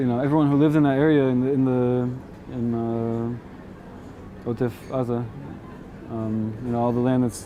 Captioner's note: hebrew